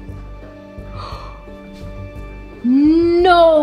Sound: gasps

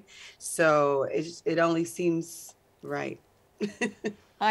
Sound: laughs

